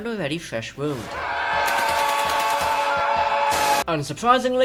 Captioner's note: PTSD Screaming